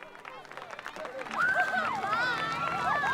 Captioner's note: cheering